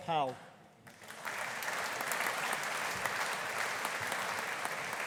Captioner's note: audience applauding